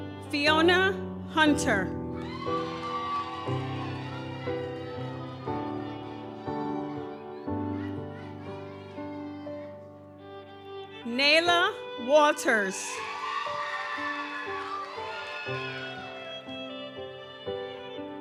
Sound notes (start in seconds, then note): 2.1 audience cheers; 2.3 gentle music continues; 12.1 audience cheers; 13.1 gentle music continues